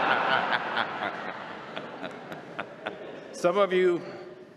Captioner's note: laughter